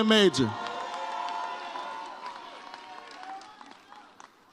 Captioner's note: audience cheers